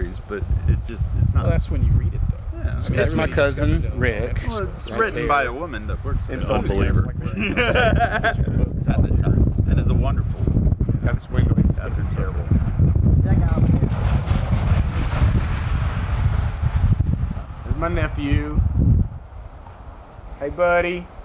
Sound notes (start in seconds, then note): 7.1 Dave laughing; 11.3 wind blowing loudly